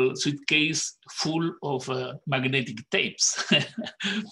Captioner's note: laughs